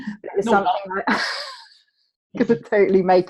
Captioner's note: murmurs